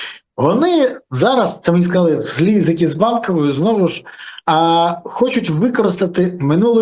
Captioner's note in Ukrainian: сопіння